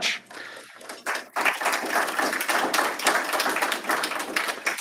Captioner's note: applause